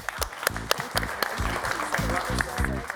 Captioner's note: audience applauding